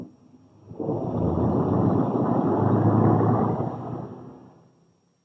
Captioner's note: rumbling